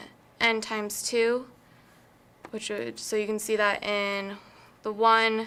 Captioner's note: none